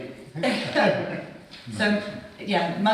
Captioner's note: people chuckling